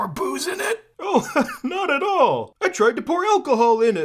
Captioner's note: chuckles